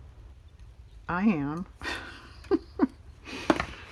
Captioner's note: laughs